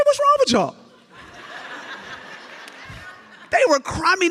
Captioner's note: audience laughs